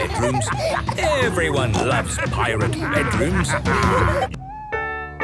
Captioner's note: laughter